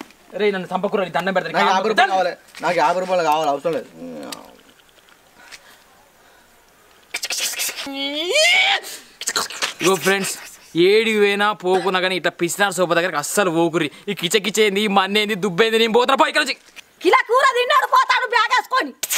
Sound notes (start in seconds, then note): 7.0 makes random sounds